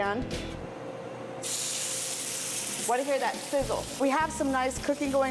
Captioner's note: sizzling